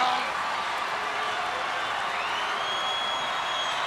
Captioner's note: crowd cheering